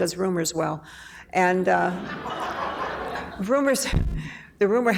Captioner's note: laughing